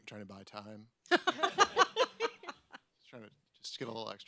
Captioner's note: audience laughs